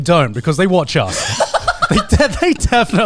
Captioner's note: all laughing